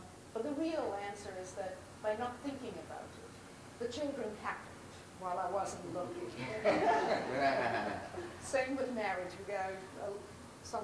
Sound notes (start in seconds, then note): 6.6 laughs